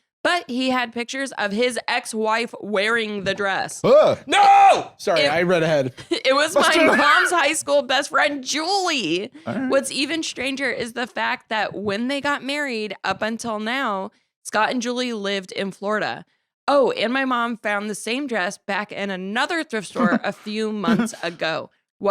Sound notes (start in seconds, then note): 4.2 alarmed noise